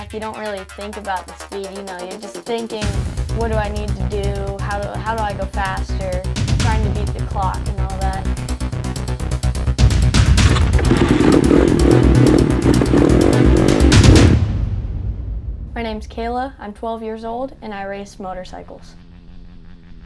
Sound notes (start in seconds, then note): 10.3 engine starting